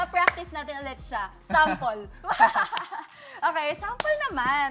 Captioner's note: laughing